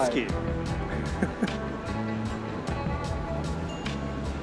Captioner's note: chuckling